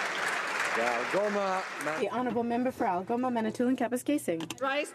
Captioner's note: some Applause